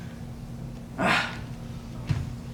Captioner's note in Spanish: Exhala